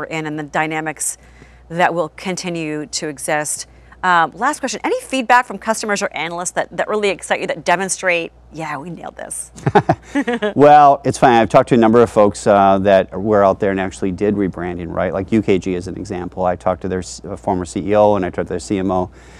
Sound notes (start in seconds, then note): 9.5 laughs